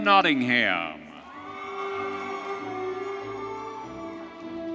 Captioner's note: audience cheering